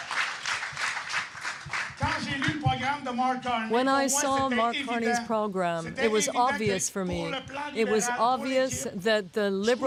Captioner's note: applause